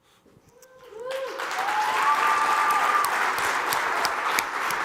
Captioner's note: cheers and applause